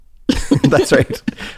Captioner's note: laughs